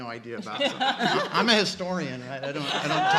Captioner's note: laughing